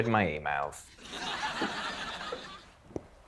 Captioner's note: laughter